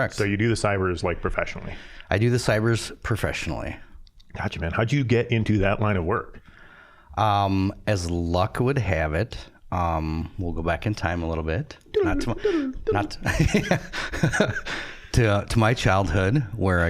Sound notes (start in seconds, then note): 11.9 making chirpy sci-fi noises; 14.5 laughing